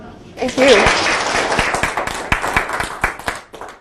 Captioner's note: audience clapping